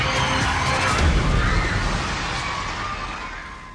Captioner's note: panicked screaming; explosion